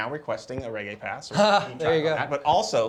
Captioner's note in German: stimmengewirr